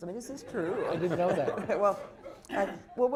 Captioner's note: laughter